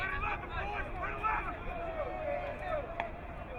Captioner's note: crowd cheering